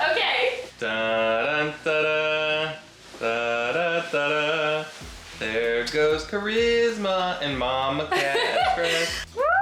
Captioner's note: humming